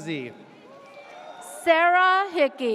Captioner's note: audience cheers